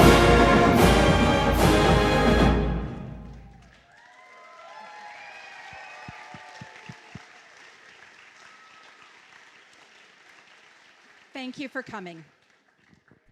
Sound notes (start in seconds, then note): 4.5 applause